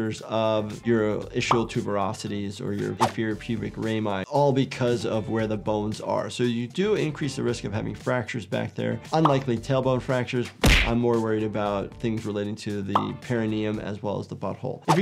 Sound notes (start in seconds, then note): 1.4 graphic pops; 10.5 graphic thumps; 12.9 graphic pops; 14.4 graphic whooshes